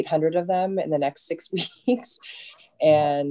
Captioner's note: chuckles